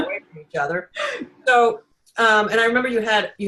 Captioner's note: giggling